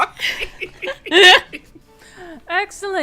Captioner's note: laughter